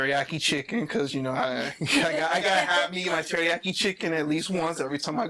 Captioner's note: laughing